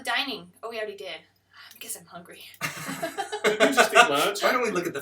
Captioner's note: laughter